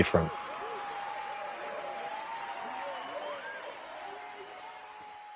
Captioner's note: crowd cheering